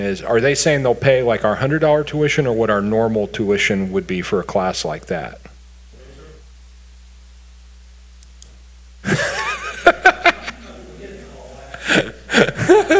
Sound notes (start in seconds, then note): 6.7 man speaking distantly; 9.0 people laugh